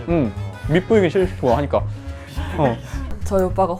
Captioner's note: laughing